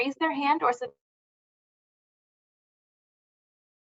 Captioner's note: audio drop